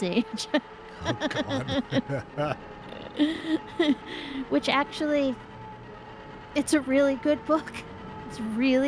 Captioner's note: laughing